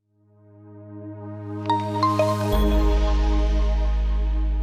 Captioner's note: logo chiming